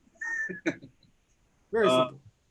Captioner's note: laughs